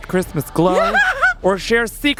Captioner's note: laughing